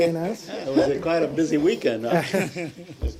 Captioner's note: laughter